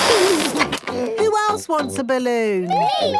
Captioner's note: George giggles